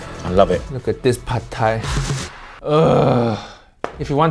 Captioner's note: groans